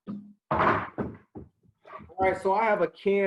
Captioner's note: cabinet door clunking